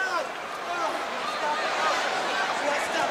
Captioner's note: crowd chatter